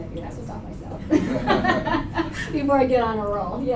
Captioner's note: laughter